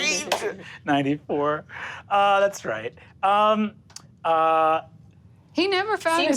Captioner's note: laughs